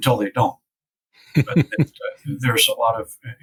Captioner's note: chuckles